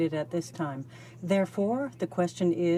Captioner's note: speaking French